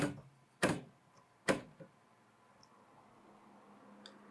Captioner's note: typewriter clicking